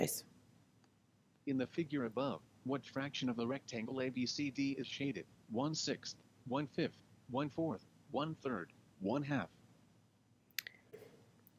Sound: fast, Male voice reads question and answers

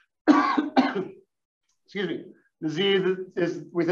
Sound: cough

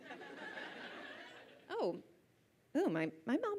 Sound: audience laughs

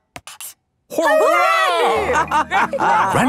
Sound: all laughing

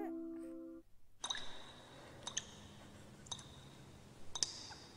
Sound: dripping water

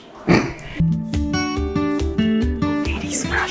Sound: chuckles

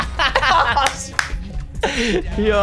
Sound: clapping

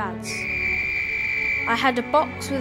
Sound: whistle tweets

